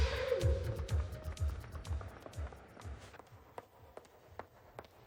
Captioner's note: footsteps clacking